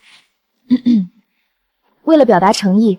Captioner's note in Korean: 콜록콜록